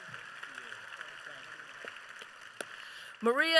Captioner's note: applause